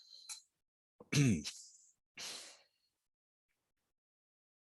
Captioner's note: clears throat